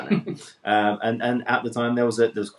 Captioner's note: man laughs